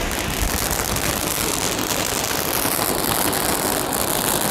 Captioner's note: fireworks crackling